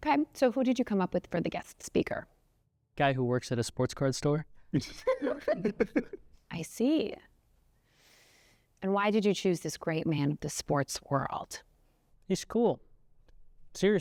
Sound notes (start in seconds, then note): 4.8 students laughing